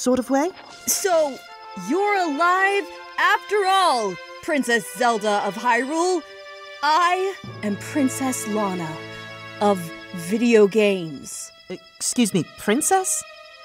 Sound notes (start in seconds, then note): none